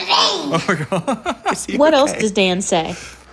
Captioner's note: laughs